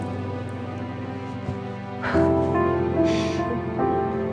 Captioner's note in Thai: เสียงหัวเราะเบา ๆ